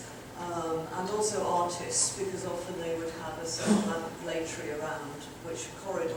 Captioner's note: audience member sneezing